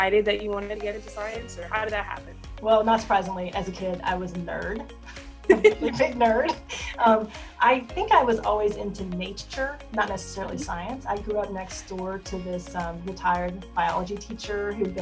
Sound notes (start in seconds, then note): 5.5 laughs